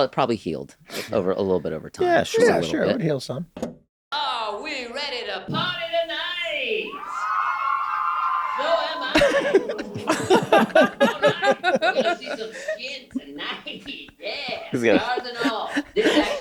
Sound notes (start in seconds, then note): 6.8 cheering; 9.0 Meg and Rob laughing